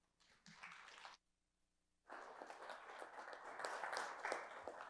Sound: audience applauding

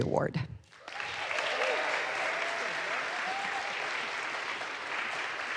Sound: audience applauds

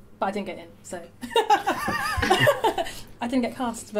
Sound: laughter

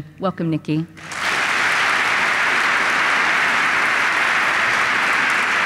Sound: applause

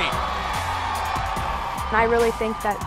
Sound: crowd Cheering

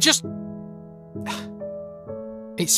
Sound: sigh

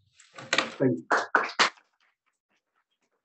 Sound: applause

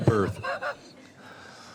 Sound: laughter

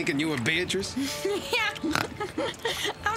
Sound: <i>tittering, snorting</i>

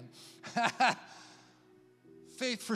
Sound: laughs

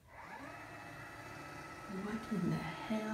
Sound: motor whirring

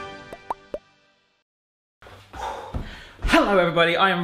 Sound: dramatic music; popping

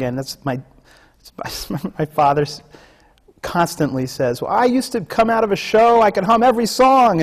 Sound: laughs

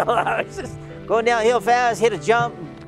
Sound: chuckling

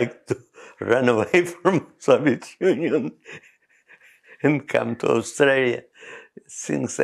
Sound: laughs

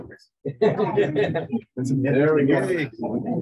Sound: laughter

